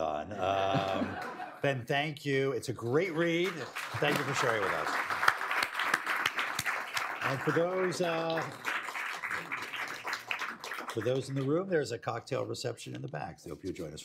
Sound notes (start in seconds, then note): 0.0 laughter; 3.0 applause